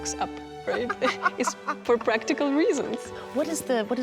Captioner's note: laughing